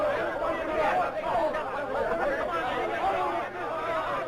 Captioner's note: loud, overlapping chatter of men